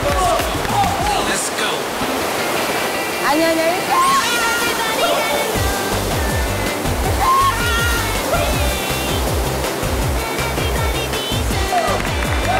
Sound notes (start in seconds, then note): 7.8 splash